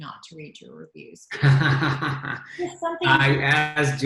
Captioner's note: laughter